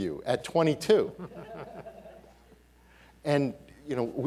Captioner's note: audience laughing